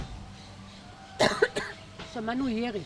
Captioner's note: coughing